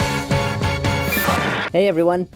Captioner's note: static